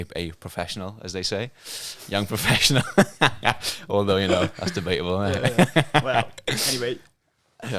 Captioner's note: laughing